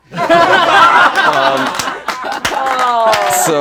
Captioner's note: laughing